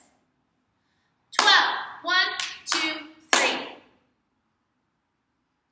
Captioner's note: clap